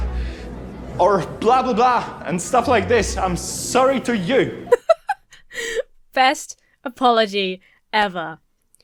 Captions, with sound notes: Or blah-blah-blah and stuff like this. I'm sorry to you. (giggles) - Best apology ever.